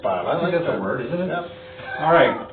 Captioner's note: chuckles